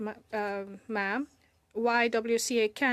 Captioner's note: speaking in French